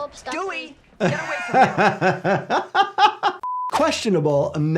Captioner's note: doctor laughs